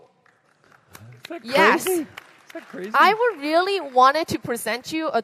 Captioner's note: applause